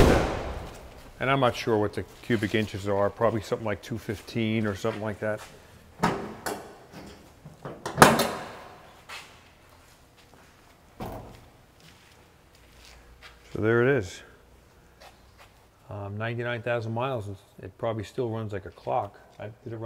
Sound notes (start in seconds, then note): 0.0 hood slams; 6.9 clanking noises